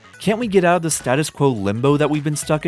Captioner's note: none